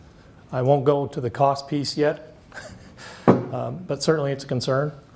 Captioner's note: laughs